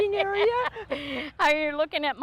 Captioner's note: laughing